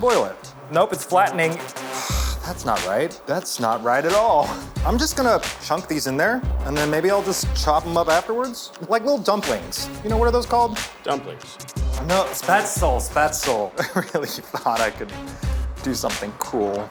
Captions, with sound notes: Boil it. Nope, it's flattening. (sighs) That's not right, that's not right at all. I'm just gonna chunk these in there and then maybe I'll just chop 'em up afterwards? Like little dumplings, you know, what are those called? - Dumplings. - No, spätzle, spätzle. Really thought I could do something cool.